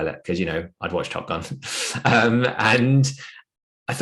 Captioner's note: chuckles